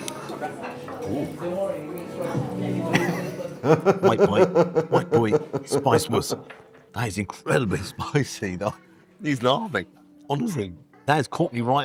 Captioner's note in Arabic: يضحك